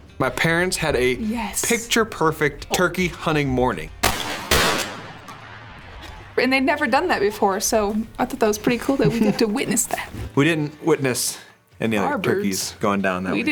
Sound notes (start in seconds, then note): 4.0 gunshots